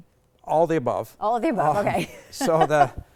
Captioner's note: both laughing